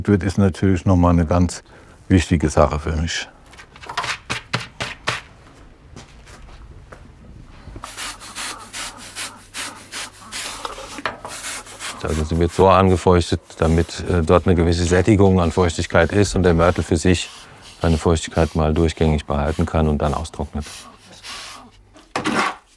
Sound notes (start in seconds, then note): 7.8 hissing